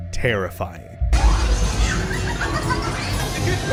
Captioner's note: fever dream noises